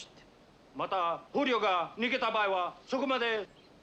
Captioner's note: speaking japanese